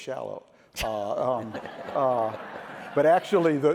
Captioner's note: laughter